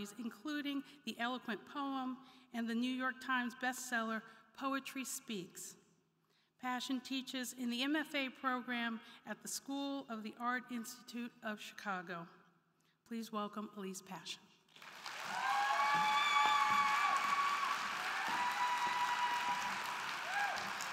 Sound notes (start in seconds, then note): 14.7 crowd clapping; 14.8 crowd cheering